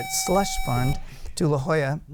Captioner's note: buzzer